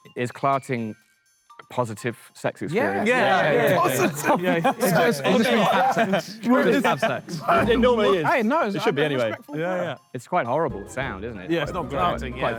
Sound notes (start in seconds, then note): 5.4 Sidemen laugh